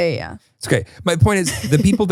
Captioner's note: laughs